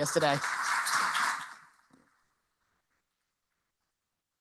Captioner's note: applause